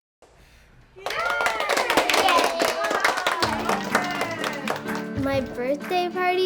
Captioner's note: all cheering and clapping